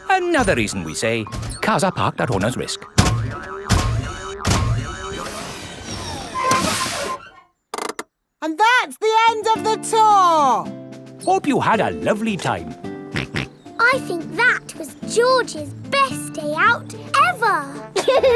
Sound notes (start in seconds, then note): 13.5 snorts